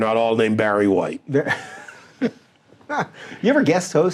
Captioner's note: laughing